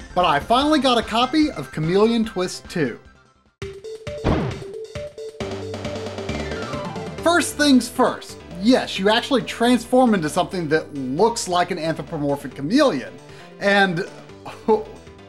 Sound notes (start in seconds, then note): 3.7 game audio